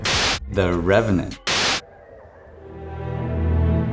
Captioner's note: screen buzzes; gentle morose music